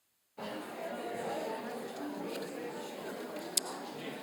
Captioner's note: crowd murmuring